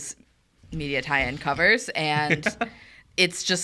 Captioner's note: laughs